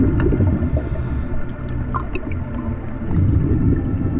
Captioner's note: audible breathing